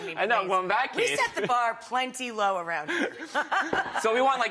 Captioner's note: laughs; laughs